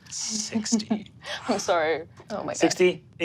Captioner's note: laughs